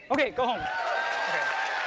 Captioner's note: cheering